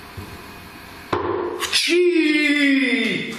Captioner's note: bang